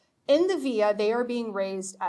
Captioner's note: speaking foreign language